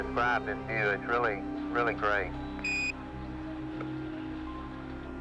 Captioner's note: beeping